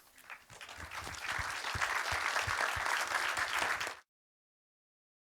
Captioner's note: applause